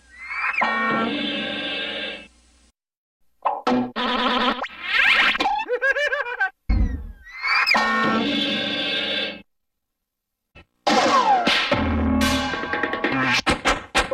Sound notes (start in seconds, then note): 0.2 cartoon sounds; 3.3 cartoon sounds continuing